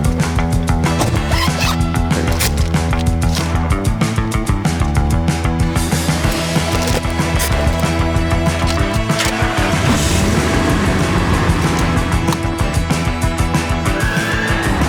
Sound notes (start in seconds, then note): 10.4 car engine whirring